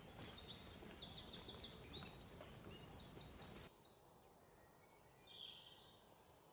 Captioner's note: birds chirping